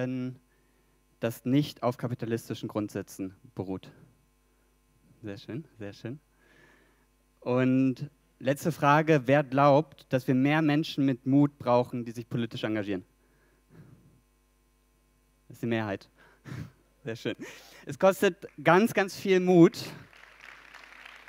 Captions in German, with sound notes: das nicht auf kapitalistischen Grundsätzen beruht? Sehr schön, sehr schön. Und, letzte Frage: wer glaubt, dass wir mehr Menschen mit Mut brauchen, die sich politisch engagieren? Die Mehrheit – sehr schön. Es kostet ganz ganz viel Mut – [Applaus]